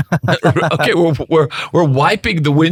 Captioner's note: laughing